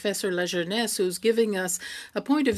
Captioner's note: speaking French